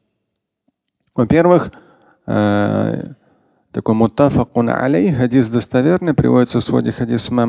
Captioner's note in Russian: говорит на арабском